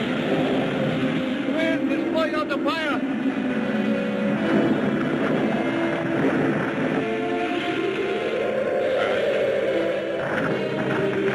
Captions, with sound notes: - This wind is putting out the fire! (wind whooshing)